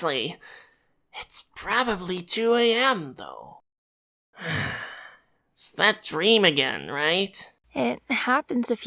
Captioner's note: sigh